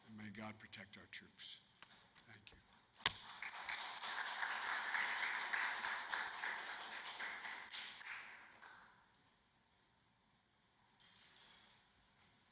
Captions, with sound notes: May God bless you all, and may God protect our troops. Thank you. [APPLAUSE]